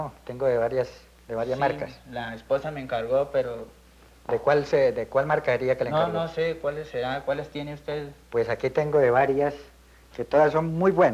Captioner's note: men conversing in Colombian Spanish